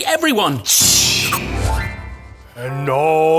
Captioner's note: whooooossshhh!